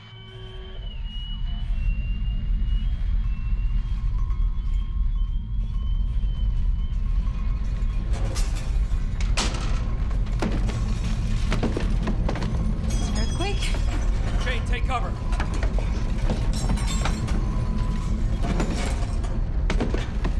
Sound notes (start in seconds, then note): 0.0 whistle; 8.4 glass break; 18.1 thud sound